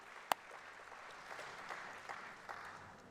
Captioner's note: applause